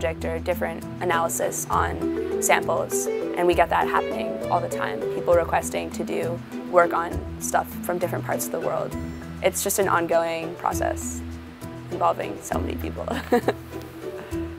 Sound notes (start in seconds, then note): 13.2 laughs